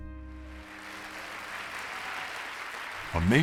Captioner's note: audience applauding